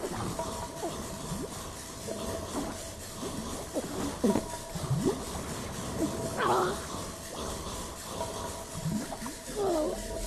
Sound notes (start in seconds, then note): 5.9 choking